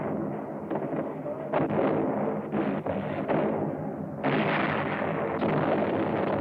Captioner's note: explosions